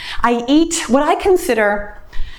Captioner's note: none